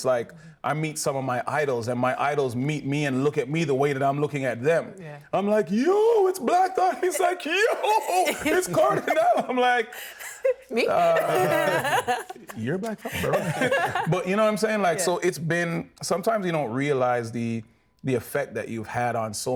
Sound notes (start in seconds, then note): 12.0 laughing